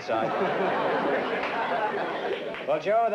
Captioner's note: laughter